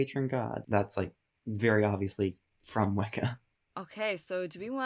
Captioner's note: chuckles